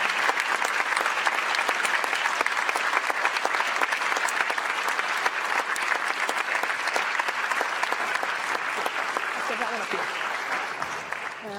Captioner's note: applause